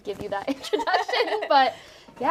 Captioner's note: both laughing